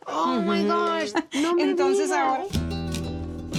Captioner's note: both speaking Spanish